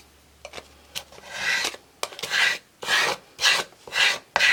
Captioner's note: scraping